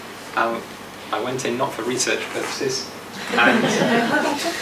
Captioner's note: audience laughs